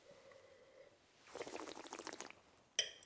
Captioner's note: slurps